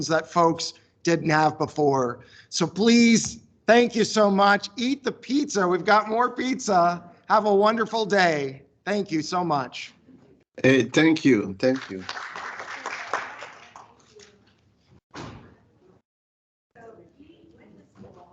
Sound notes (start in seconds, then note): 11.6 audience applauds; 14.3 attendees chatting